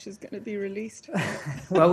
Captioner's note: laughter